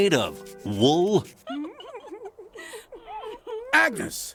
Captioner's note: laughing